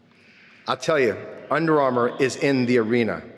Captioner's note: none